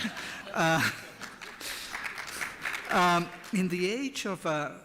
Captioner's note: applause